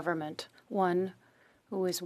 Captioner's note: speaking French